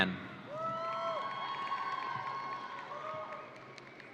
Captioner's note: audience cheering